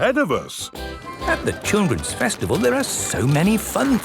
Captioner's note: festival buzz and music